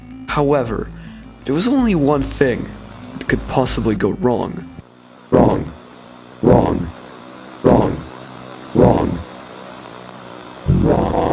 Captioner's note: glitches out